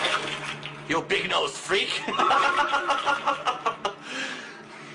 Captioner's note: more laughter